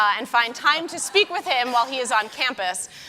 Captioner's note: audience laughing